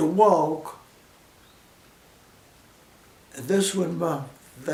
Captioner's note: silence